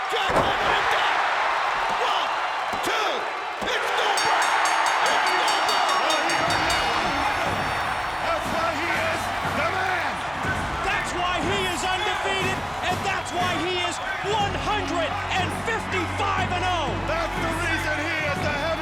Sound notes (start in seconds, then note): 3.9 bell ringing; 4.8 crowd cheering